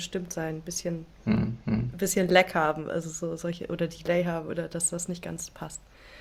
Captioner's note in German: räuspern